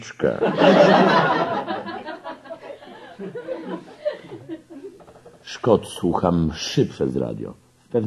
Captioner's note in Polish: śmiech